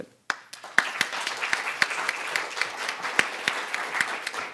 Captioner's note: audience applauding